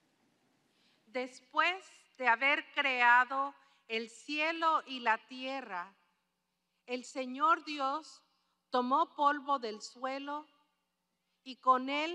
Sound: speaking spanish

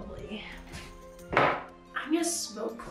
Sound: bowl thuds

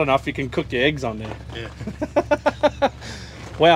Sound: laughs

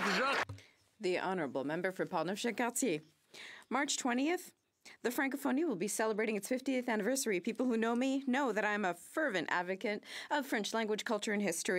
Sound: some Applause

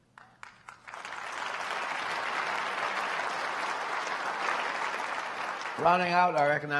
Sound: applause

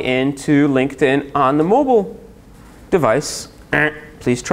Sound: buzz

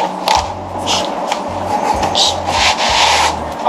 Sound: laughs

